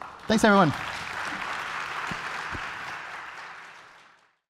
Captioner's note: applause